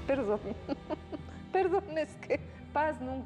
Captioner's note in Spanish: risas